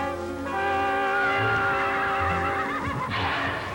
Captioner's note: neigh